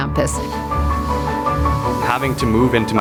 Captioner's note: energetic music; water splashing